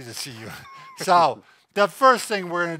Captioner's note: laughing